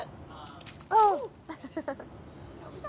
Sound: grunts; laughs

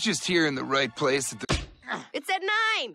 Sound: punch

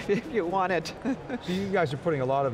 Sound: laughs

